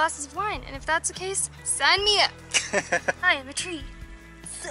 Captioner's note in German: Lachen